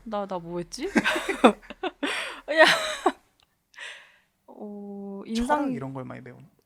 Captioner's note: laughs